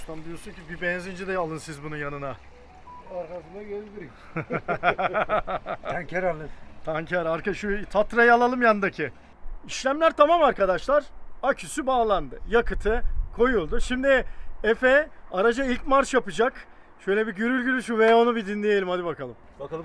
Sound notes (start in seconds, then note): 4.0 laughings